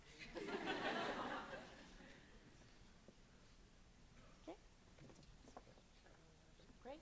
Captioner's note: laughter